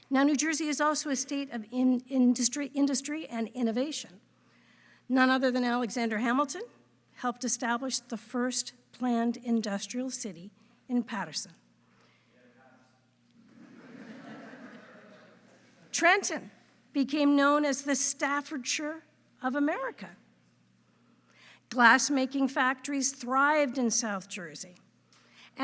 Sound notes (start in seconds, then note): 13.4 audience laughing